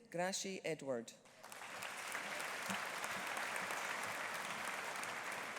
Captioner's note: audience applauding